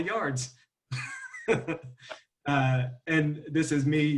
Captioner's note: laughs